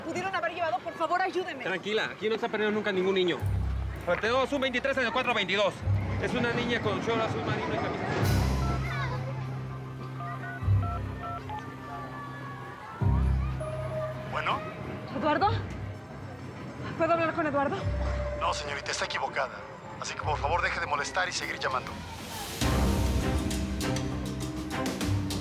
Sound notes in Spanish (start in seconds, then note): 9.9 Sonido al marcar